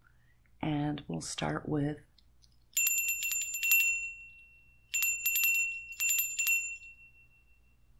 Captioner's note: bell ringing